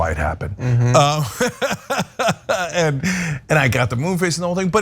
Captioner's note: laugh